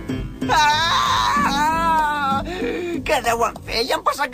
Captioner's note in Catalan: crida, perd els nervis